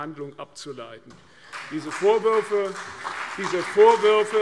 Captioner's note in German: Beifall CDU und vereinzelt BÜNDNIS 90/DIE GRÜNEN